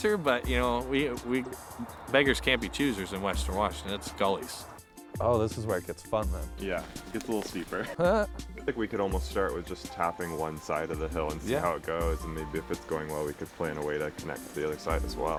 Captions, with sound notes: but, you know, beggars can't be choosers in western Washington. It's gullies. Oh, this is where it gets fun, then. -Yeah. It gets a little steeper. -[ Chuckles ] -I think we could almost start with just tapping one side of the hill and see how it goes, and maybe, if it's going well, we could plan a way to connect to the other side as well.